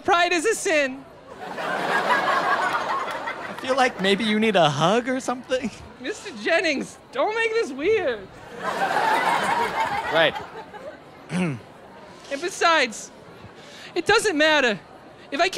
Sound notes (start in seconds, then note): 11.2 clears throat